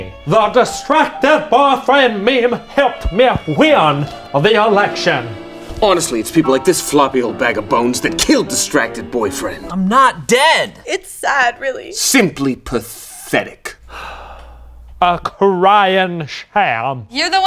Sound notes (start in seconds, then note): 13.8 sigh